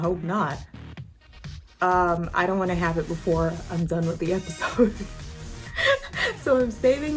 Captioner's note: laughs